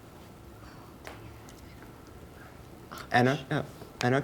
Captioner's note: team whispering